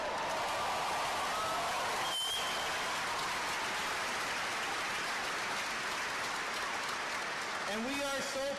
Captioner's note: applause